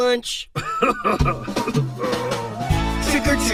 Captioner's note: laughs in embarrassment; chuckles